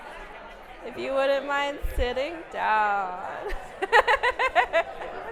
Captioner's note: laughing